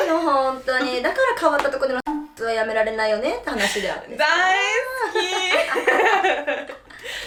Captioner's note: laughs